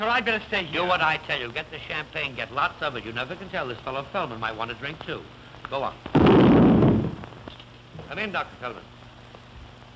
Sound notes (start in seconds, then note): 6.1 boom